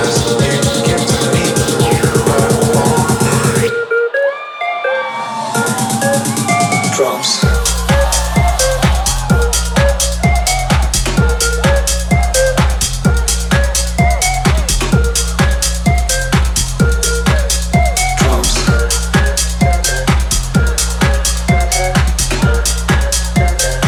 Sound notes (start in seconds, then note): 5.6 crowd cheering; 5.6 techno music; 19.5 techno music